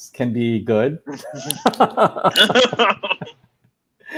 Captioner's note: laughing